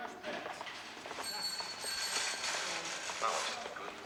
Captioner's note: bell ringing